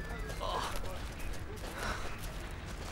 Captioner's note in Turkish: Telsiz sesi; Nefes sesi; Ayak sesleri